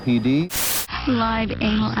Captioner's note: static